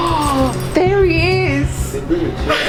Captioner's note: intense music; gasping